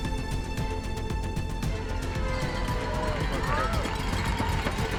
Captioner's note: crowd cheering